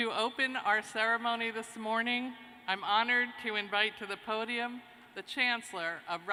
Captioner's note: none